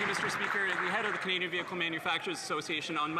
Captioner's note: some Applause